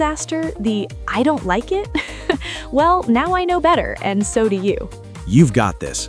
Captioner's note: laughs